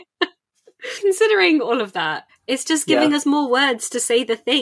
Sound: laughs

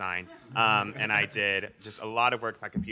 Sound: audience laughing

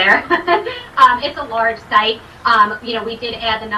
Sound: chuckling

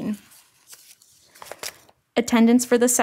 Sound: pages scrapping

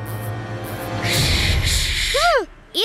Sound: dramatic music; hissing

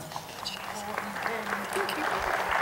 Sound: whispering; applause

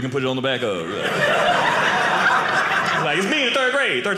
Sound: audience laughing

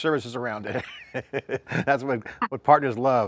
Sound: laughs

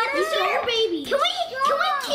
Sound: chattering together

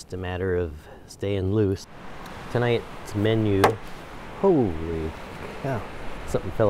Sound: object falls from tree

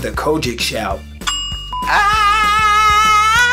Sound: bell sound

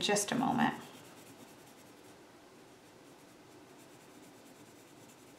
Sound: pencil scribbles

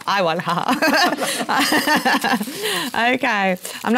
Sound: laugh

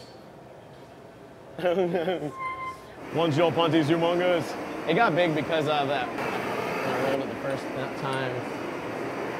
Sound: laughter

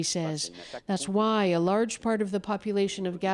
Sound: speaking French

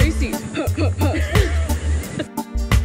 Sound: both laughing

